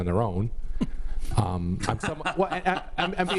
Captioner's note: laughing